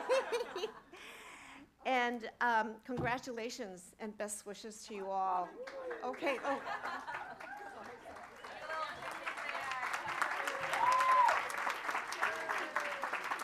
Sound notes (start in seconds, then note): 0.0 laughter; 6.3 chuckling; 8.5 applause